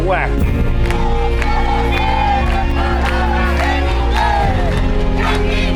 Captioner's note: protesters protesting in Spanish